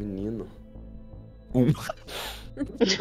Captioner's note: laughter